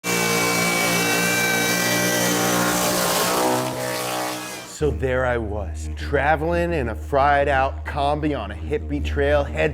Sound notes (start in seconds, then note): 0.5 engine revving